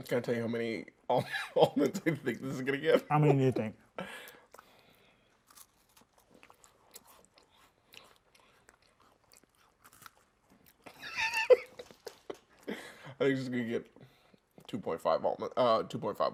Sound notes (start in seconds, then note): 1.2 laughs; 6.1 chewing; 10.8 laughing